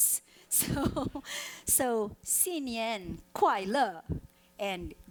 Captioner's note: speaking foreign language